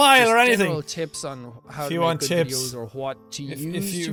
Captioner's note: mocking